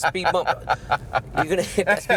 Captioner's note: laughing